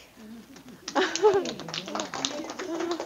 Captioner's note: audience applause and laughter